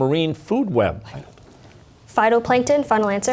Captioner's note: whispering